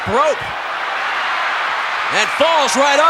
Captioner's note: audience cheering